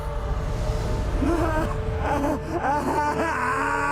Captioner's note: sobbing